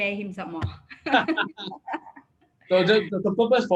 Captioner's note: both laugh